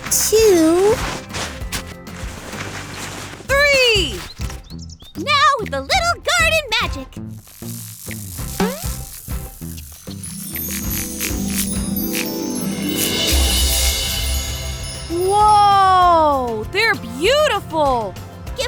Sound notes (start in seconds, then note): 7.1 buzzing; 8.3 magical sounds; 8.3 boing